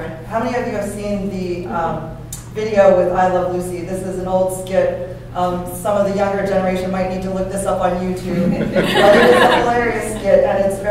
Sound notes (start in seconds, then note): 8.3 laughter